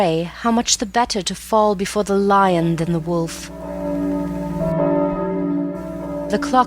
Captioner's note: clock strikes